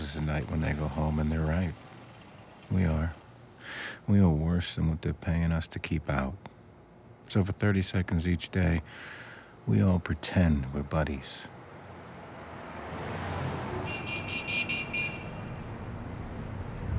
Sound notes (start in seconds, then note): 11.8 traffic humming; 13.7 car horn honking